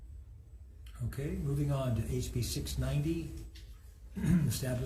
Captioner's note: clears throat